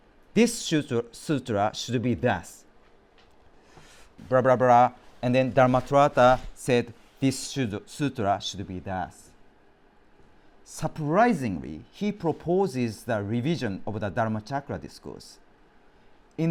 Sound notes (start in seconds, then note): none